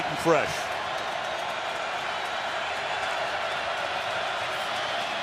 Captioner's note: crowd cheering